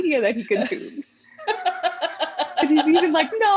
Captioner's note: laughter